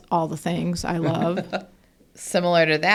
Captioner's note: laughs